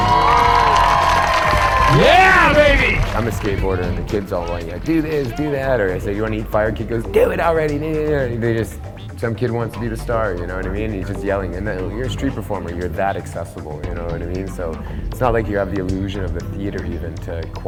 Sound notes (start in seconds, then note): 0.0 audience cheering and applauding